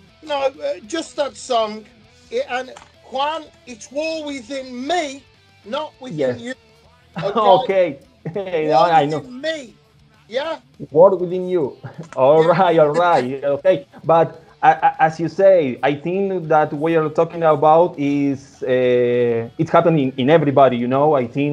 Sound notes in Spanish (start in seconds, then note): 11.8 risas